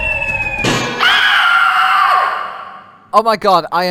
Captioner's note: The Witch screams one last scream as she dies